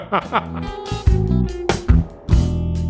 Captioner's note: laughs; funky music